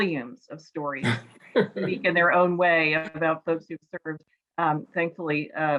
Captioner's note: laughs